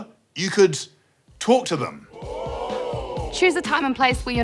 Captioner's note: crowd exclaims